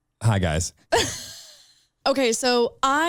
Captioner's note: chuckling